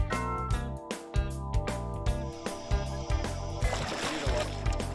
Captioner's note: alligator splashing